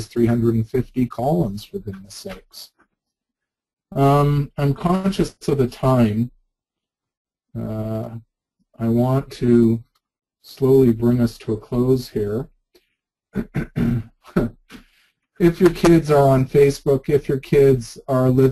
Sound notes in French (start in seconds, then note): 13.4 rire ironique